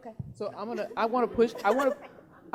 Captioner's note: laughing